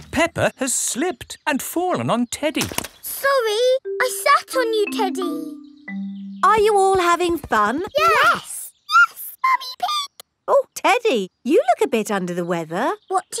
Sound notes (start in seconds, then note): 8.9 in high-pitched voice